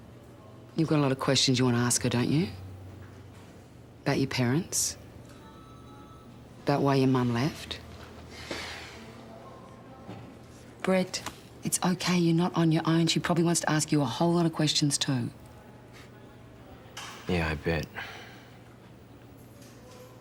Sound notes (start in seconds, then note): 8.0 sighs